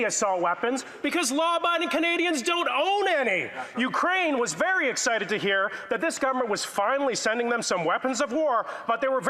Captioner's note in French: voix de l'interprète